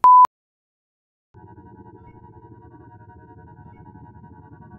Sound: whirring

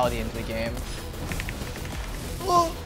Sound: frantic keyboard clacking

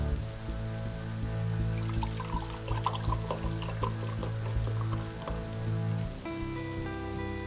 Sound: pouring wine into glass

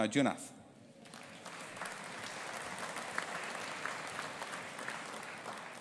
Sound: audience applauding

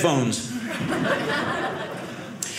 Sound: audience laughing

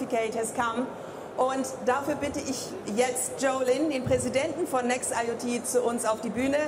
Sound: speaking in foreign language

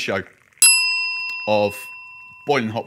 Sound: bell dings

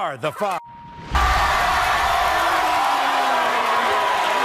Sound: audience cheers

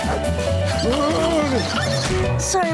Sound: groaning

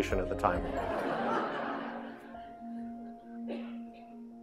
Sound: audience laughing; gentle music

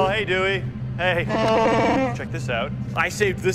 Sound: wookie speak

